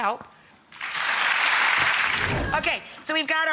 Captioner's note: audience claps